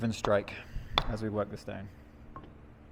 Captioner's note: metal pounding